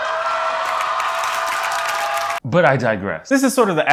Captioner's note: audience cheers